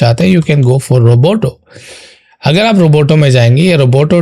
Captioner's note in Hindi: नाक से की जाने वाली आवाज़